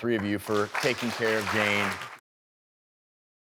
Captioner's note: applause